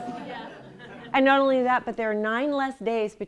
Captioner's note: laughter